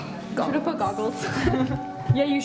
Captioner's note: snort laugh